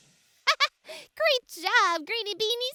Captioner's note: Marvie laughs